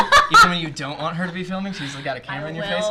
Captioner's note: laughs